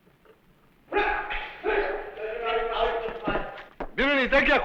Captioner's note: non-english speech